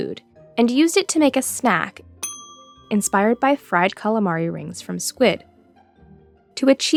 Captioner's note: ding